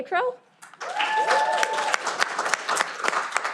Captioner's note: cheering